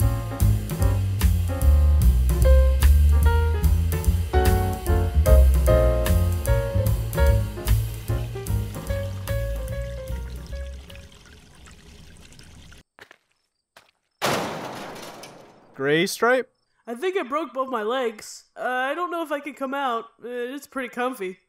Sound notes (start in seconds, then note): 12.9 walking sounds; 14.2 boom